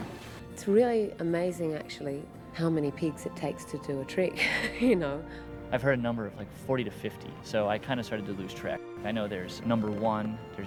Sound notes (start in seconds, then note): 4.1 chuckles